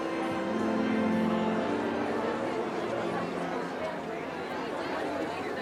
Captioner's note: indistinct chatter